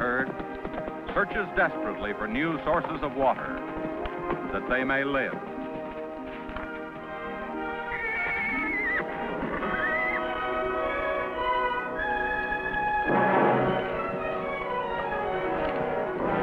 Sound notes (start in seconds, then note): 7.4 Champion whinnies; 10.3 orchestral music